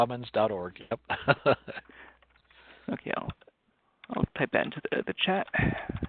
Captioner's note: laugh